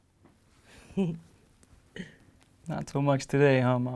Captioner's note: laughs